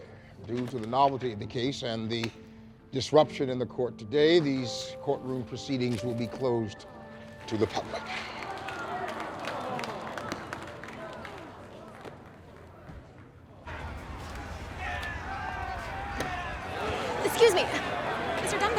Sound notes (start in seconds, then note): 7.8 crowd mutters dismay; 13.6 disgruntled crowd shouting